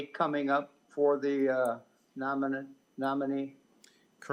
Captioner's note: none